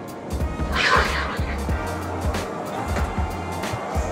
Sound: ethereal music; door whooshes; upbeat music

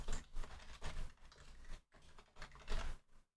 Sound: keyboard clattering

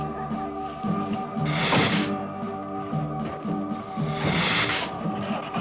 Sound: suspenseful music; Gila monster hissing

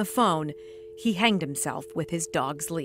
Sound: sound of dial tone

